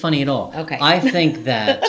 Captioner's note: laughing